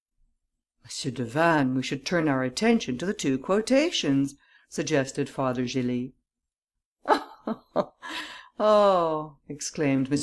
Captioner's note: laughter